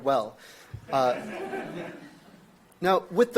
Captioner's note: audience laughs